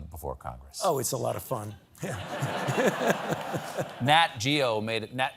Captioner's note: laughter